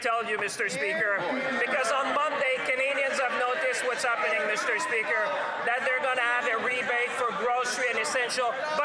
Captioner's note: speaking French